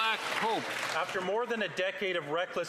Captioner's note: applause